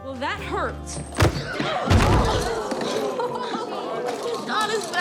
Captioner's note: gasping; thudding